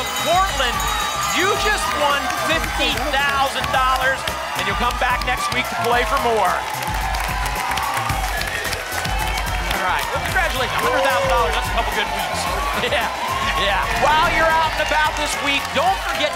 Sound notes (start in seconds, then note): 6.7 applause and cheering cont